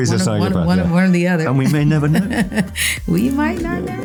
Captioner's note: laughs